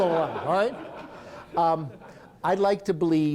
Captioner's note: laughter